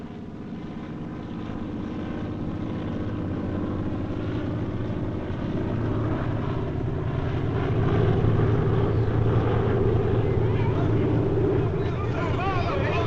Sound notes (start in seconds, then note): 2.8 airplane Overhead; 9.5 shouting